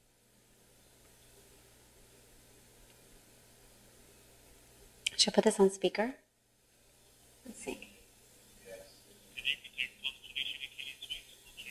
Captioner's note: audio from phone